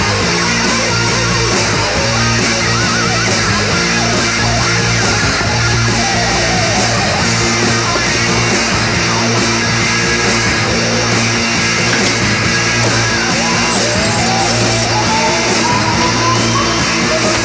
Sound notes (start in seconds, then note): 11.6 thudding; 14.2 crackling